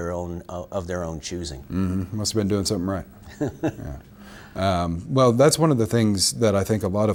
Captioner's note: laughs